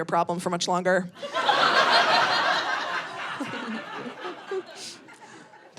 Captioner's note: audience laughing